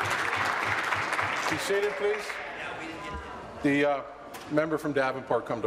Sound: applause

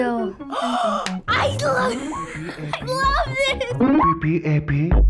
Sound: gasping

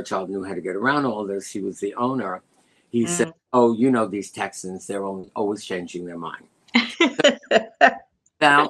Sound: laughter

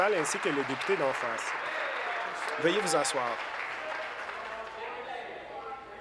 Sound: applause

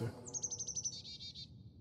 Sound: chirp-Chirp-Chip-Chip-Chirp

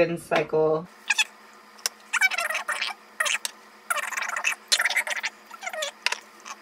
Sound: sped up babbling

